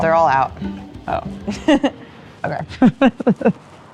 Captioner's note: laugh